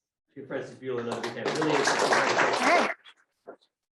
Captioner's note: audience clapping